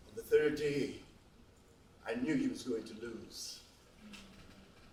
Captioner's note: none